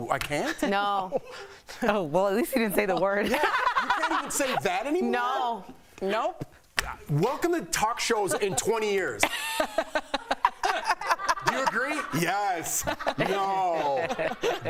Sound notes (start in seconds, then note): 6.3 laughter